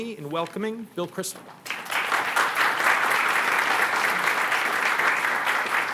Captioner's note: applause